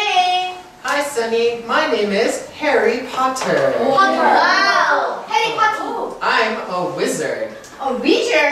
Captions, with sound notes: (murmuring) - Wow Harry Potter?